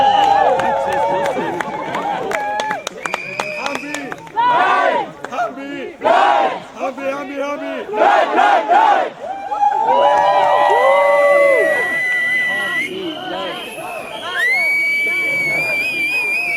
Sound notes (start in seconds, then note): 0.0 cheering; 3.9 people chanting the chorus; 11.7 people chanting and whistling